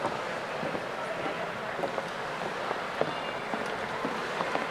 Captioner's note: footsteps echoing